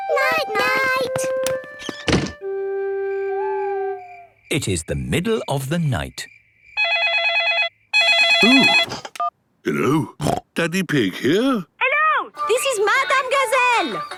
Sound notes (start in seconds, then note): 0.3 owl hooting; 4.3 phone ringing; 7.9 snorting